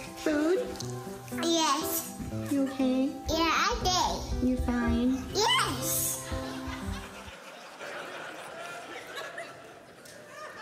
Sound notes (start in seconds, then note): 6.0 audience laughing